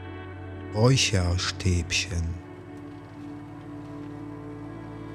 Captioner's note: german